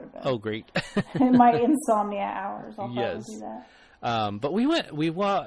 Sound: DJ laughs

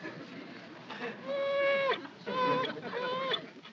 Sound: whimpering

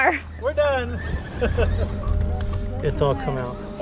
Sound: laughs

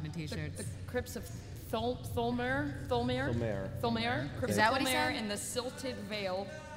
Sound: stumbles over words

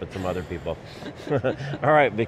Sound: laughs

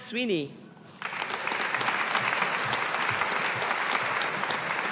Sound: audience applauding

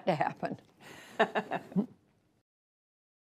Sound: laughter

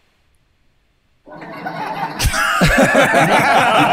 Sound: AI laugh track

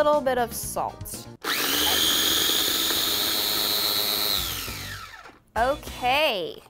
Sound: food processor whirring

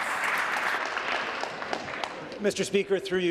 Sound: applause

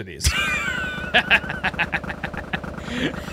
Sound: laughter

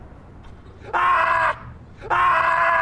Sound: screaming

